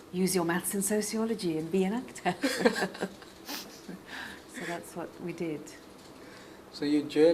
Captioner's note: laughs